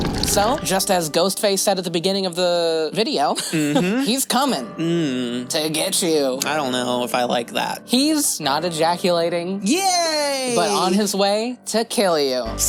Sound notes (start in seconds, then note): 4.8 disappointed noise